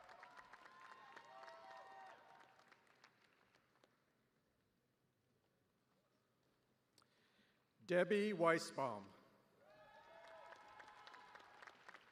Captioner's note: cheers and applause; cheers and applause